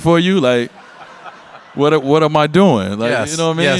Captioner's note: audience laugh